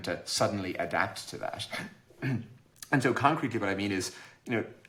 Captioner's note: clears throat